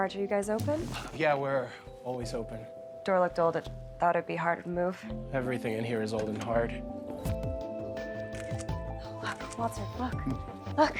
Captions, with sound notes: Are you guys open? - Yeah, we're always open - Door looked old. It thought it'd be hard to move. - Everything in here is old and hard. (camera snapping) - What the fuck? Look.